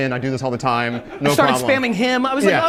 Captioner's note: audience laughs